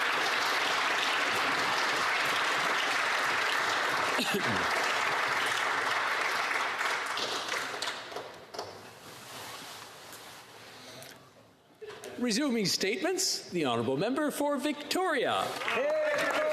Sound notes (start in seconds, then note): 0.3 some Applause; 2.7 applause